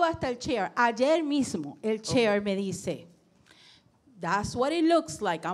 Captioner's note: speaking in foreign language